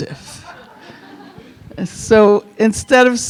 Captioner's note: audience chuckling